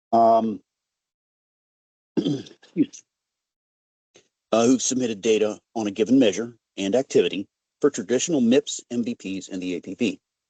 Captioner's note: clearing throat